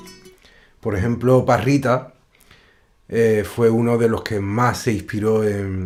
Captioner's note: musician speaking in Spanish